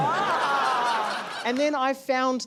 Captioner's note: laughter